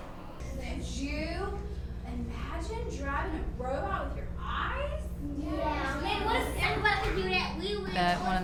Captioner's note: children answer Yeah!